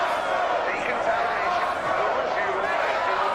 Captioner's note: man over speakers